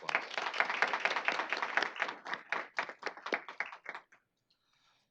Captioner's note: applause